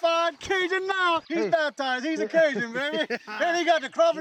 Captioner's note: laughing